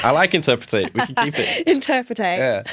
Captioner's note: laughter